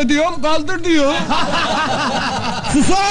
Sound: laughing

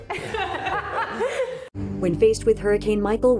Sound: laughing

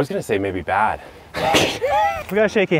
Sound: both laugh

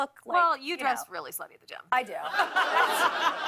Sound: laughter

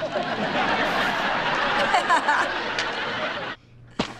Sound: laughs

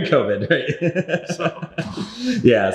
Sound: laughing

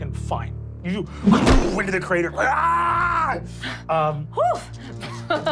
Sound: crashing; screaming; laughing

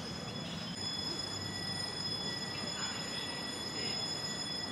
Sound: emergency siren ringing

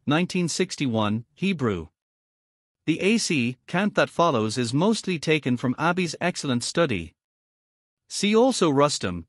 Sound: Hebrew

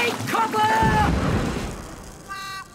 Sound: boom!

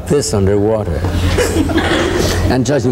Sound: crowd laughing

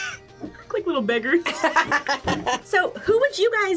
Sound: both laugh; laughs

